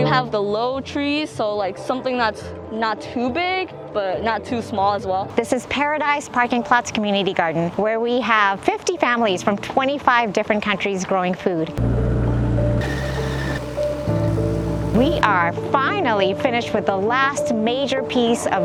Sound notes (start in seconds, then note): 12.8 machinery rattling